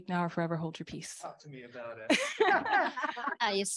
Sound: laughter

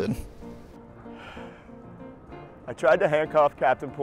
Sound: Jacobs sighs

